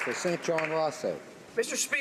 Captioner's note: some Applause